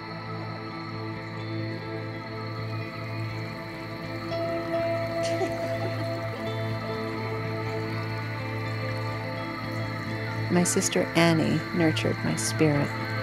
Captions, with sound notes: (Water flowing) (Girls giggling) My sister Annie nurtured my spirit.